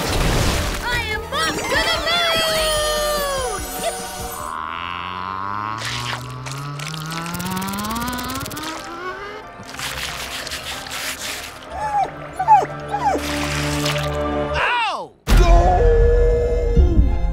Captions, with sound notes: I am off to the moon! [whimpering] Oh! Oh.